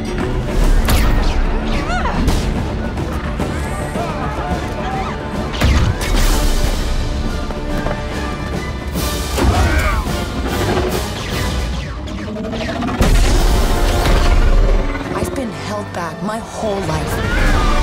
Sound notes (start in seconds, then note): 0.8 lasers firing; 0.8 exclaims; 5.5 lasers firing; 13.0 explosions